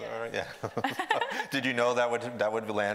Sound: both laughing

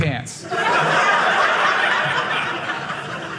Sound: audience laughing

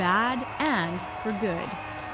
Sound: cheers and applause

